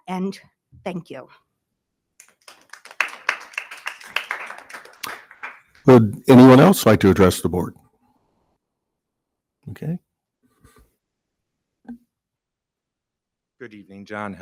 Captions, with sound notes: and thank you. (attendees applauding) >>Good. Anyone else like to address the board? Okay. >>Good evening.